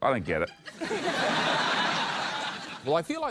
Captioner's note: laughter